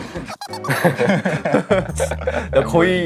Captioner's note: haha